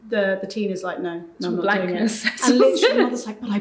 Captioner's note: chuckling